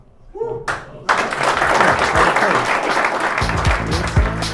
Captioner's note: clapping; upbeat techno music